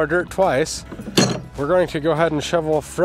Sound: wheelbarrow clunking

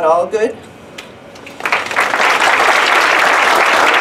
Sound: applause

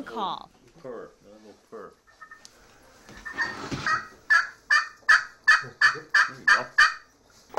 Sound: hen call sound

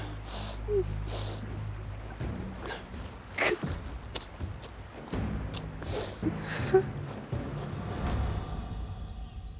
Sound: jim crying, sniffling

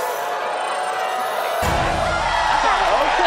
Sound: cheering, applause

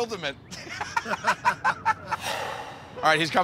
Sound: laughter

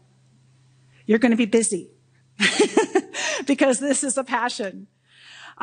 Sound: laughs

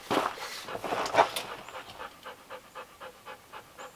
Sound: dog panting

